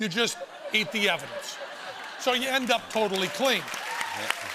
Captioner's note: laughter